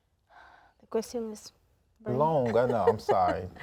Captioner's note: speaking in Spanish